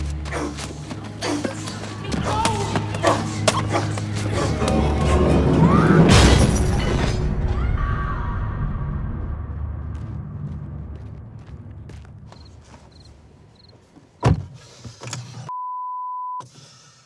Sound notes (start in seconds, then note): 5.0 door clattering; 6.0 door slamming; 7.5 boy screaming; 9.8 feet pattering; 12.1 insects chirping; 14.2 door slamming